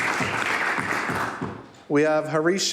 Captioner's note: applause